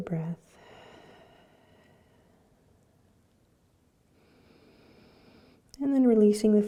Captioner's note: breathing